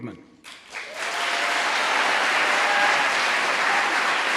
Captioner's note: applause